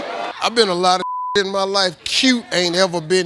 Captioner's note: beep